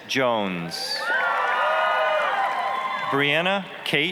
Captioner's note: applause, cheering